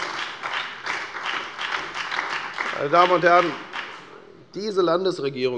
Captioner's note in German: Beifall bei der FDP und der SPD